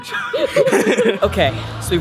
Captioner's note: laughter